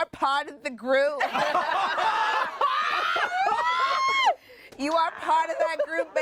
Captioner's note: everyone laughs